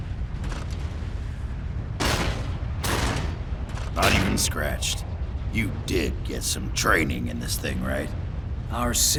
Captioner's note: Bangs on ARS